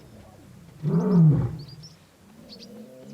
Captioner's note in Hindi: दहाड़